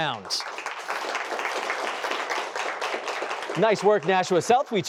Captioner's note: applause